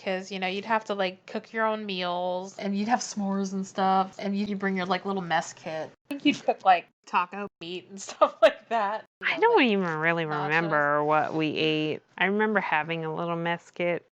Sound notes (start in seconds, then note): 8.7 laughs